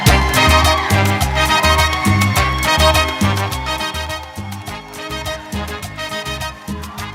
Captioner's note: cheering and applause